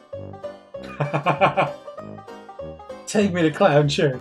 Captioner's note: laughs